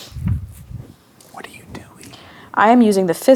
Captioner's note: gasps; whispers